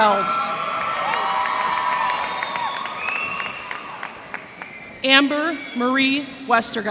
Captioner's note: cheers and applause